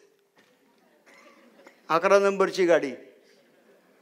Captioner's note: walking